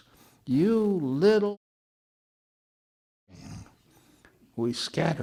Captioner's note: audio drop